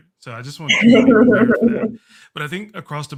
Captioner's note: panelists laughing